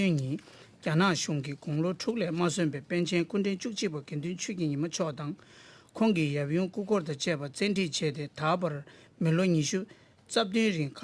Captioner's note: speaking Alternate Language